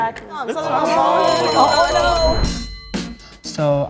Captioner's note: group groaning; alarm ringing